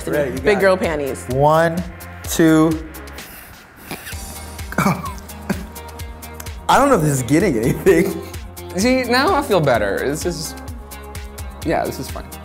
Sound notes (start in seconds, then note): 3.1 sharp inhale